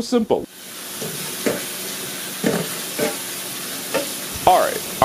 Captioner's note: water running